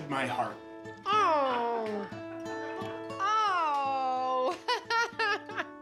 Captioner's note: laughs